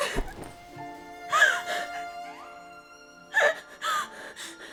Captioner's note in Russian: плач